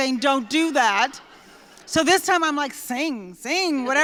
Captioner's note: laughter